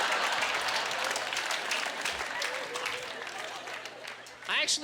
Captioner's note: applause